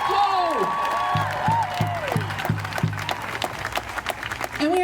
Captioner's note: crowd cheering and applauding